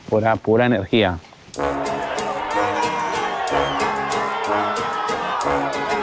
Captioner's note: crowd cheering